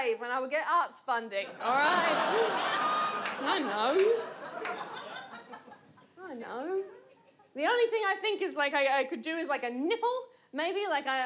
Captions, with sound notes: and I would get arts funding. [AUDIENCE LAUGHS] The only thing I think I could do is a nipple. Maybe?